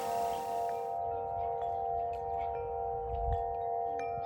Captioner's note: windchime in a tree with blue sky